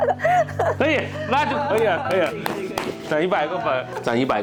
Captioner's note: laughing